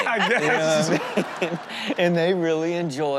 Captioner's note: hosts and audience laugh